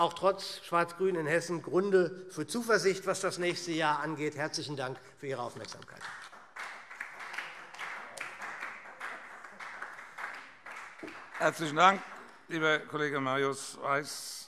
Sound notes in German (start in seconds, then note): 7.7 Beifall SPD